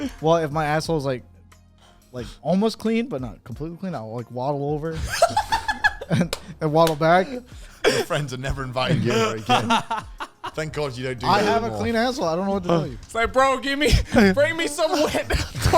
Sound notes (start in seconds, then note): 4.9 men laughing